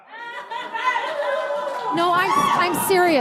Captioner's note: laughter